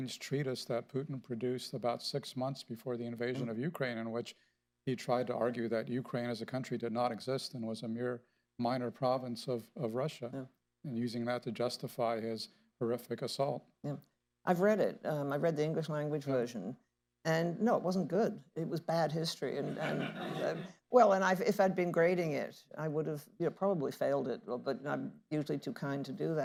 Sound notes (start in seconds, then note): 19.6 laughter